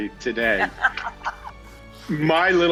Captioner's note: laughs